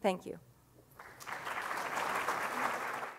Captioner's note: audience claps